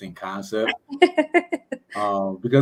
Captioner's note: laughter